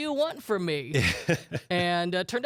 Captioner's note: laughs